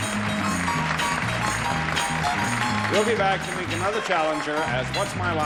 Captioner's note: theme music; applause